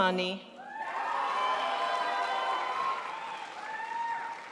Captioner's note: crowd applauds